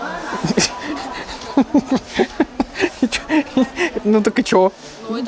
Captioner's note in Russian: смех